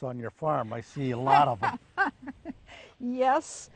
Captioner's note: woman chuckles